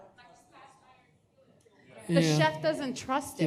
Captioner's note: audience chatter